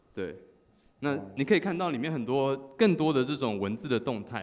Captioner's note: none